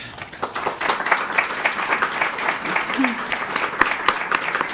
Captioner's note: audience applauding